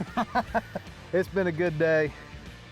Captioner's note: laughter